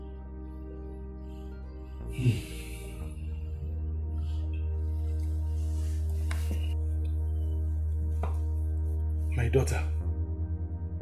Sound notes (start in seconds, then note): 1.1 exhale